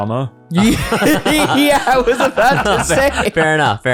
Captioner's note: laughing